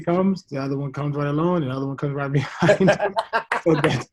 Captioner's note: laughs